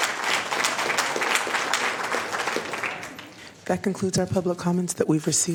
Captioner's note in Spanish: aplausos